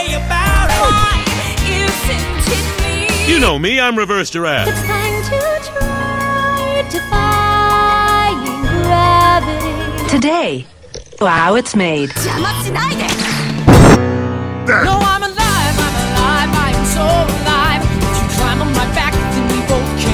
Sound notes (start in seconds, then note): 13.4 explosion